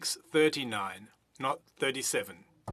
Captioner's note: speaking French